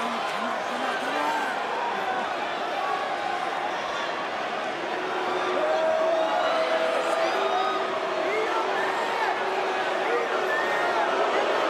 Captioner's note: crowd cheering